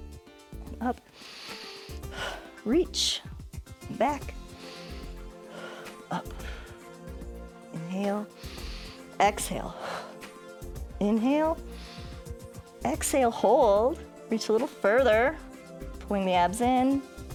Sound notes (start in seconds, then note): 1.0 inhales and exhales; 7.7 inhales